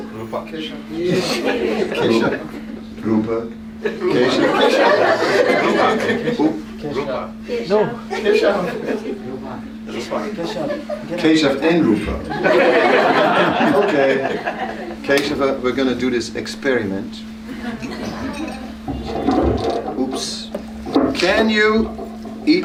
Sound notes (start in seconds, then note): 7.7 laughter; 12.2 laughter; 21.6 laughter